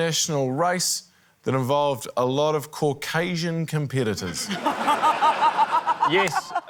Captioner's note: laughter